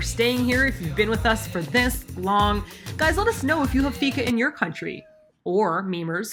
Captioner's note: meow